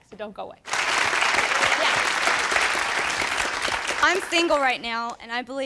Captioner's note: audience claps